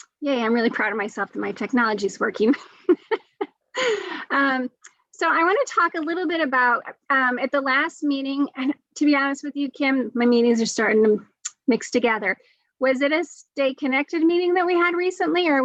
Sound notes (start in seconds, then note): 2.6 joyful laugh